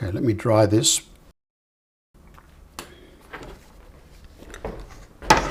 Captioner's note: silence